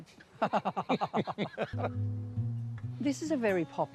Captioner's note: both chuckle